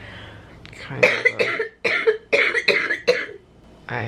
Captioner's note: coughing